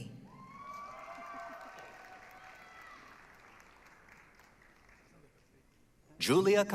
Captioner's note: applause, cheering